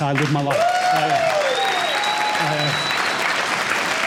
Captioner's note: cheers and applause